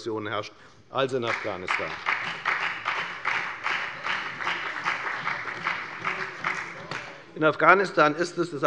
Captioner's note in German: Beifall bei der FDP und bei Abgeordneten der CDU